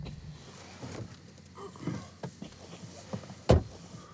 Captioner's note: Jim groans softly; door slamming